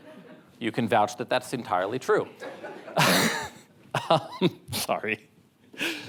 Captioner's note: laughs